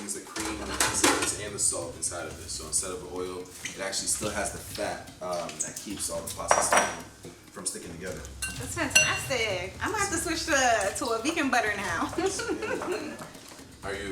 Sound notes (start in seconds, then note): 8.5 kitchen tools clinking; 11.8 chuckles